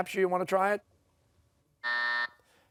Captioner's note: buzzer